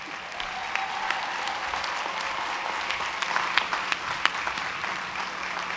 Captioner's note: cheering & applause